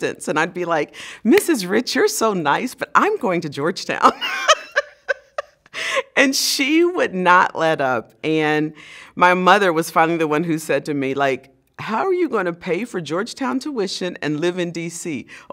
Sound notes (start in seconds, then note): 4.2 laugh